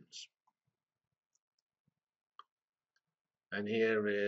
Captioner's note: pause